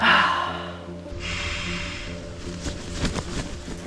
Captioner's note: blow